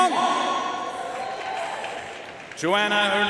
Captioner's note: audience cheering and applauding